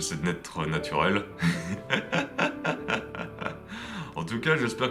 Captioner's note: laughs